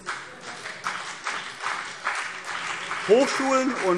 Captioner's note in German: Beifall CDU und BÜNDNIS 90/DIE GRÜNEN